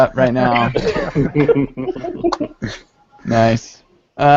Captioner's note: laughter